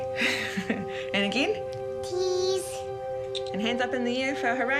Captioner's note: chuckles